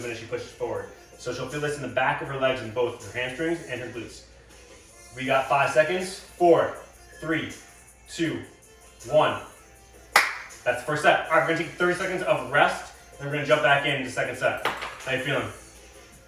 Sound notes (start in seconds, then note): 10.1 hand claps